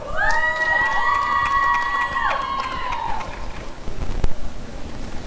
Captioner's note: applause and cheering